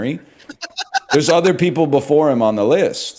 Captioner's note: laughs